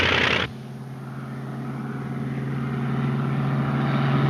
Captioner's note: engine puttering